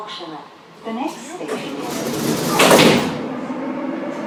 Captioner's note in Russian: закрытие дверей